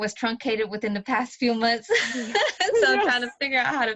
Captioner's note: laughs